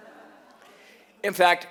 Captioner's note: laughter